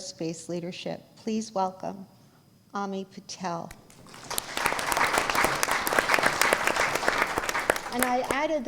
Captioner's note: applause